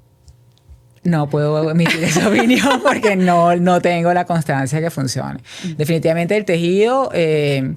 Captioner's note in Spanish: risas